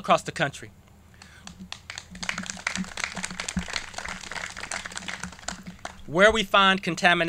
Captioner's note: clapping